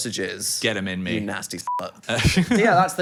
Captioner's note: beep